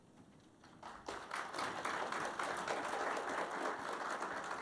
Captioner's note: audience clapping